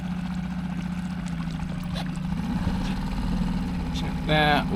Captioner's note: boat motor running